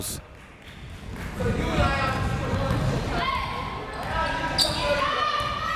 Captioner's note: crowd members shouting